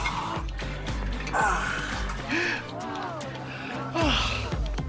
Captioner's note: gasps